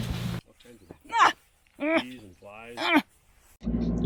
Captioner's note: groans